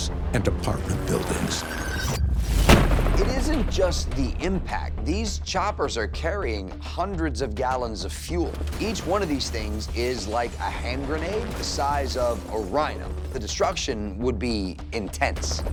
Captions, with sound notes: and apartment buildings. [loud explosion] - It isn't just the impact. These choppers are carrying hundreds of gallons of fuel. Each one of these things is like a hand grenade the size of a rhino. The destruction would be intense.